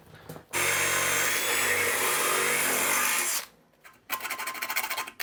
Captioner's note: drill whirring; file grinding